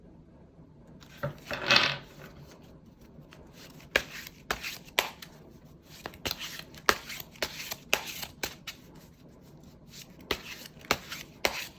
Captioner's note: drawing cards